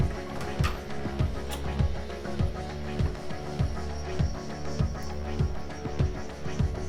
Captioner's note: stirring music continues; door opening